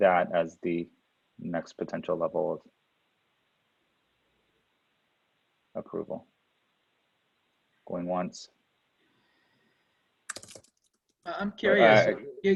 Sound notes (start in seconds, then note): 10.2 keyboard typing